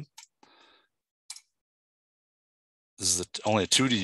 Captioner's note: mouse clicking